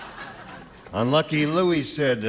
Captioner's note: laughter